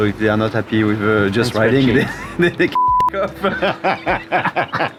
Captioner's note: beep; laughing